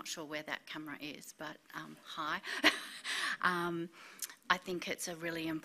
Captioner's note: laughs